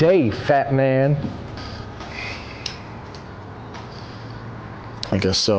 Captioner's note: sigh